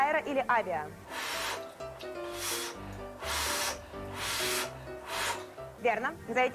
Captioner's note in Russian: дует на горячую еду 5 раз